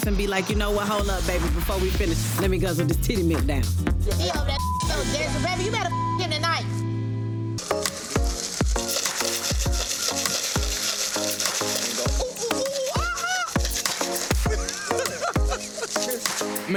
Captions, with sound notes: and be like, you know what? Hold up, baby. Before we finish, let me guzzle this titty milk down. - He know that (beep). There's a baby. You better (beep) him tonight. (upbeat electronica music) (man cawing) (man laughing)